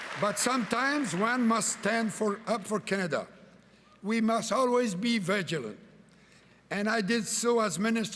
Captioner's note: cheering and Applause